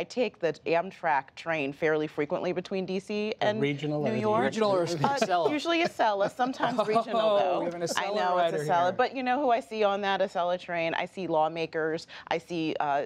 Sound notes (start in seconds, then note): 4.9 laughter